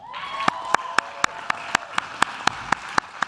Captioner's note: claps